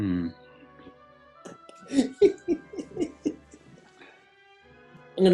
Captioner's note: giggling